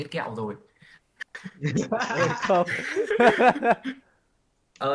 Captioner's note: all chuckles